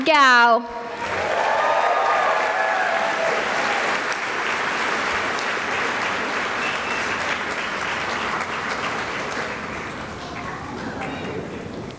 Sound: cheering and applause

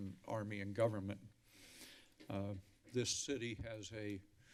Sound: inhales deeply

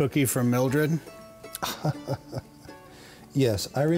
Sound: laughing

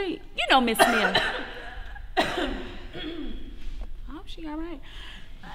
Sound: Leanna coughs

